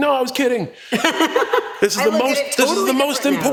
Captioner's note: laugh